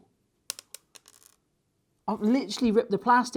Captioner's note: screw hitting countertop